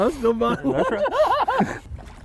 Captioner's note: laughing